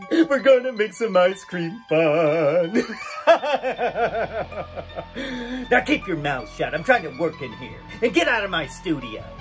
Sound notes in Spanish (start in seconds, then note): 2.7 risa malvada